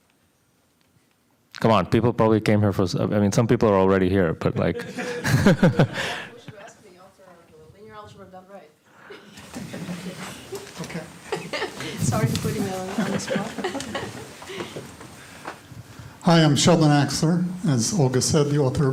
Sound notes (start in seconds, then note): 9.0 laughter